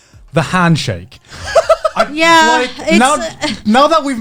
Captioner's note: all laughing